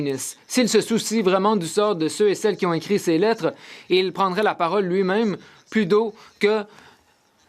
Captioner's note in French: voix de l'interprète